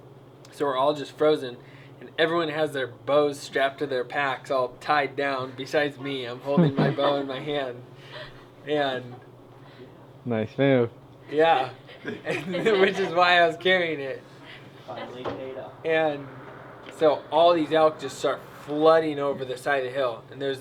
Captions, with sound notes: so we're all just frozen so everyone has their bows on their packs all tied down besides me, i'm just holding my bow in my hand (laughter) nice move! yeah which is why i was carrying it it finally paid off and so all these elk just start flooding over the side of the hill